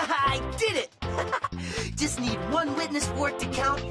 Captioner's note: laughs